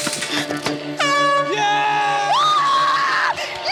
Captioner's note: woman screaming; horn blows